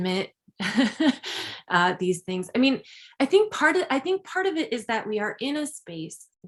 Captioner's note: chuckles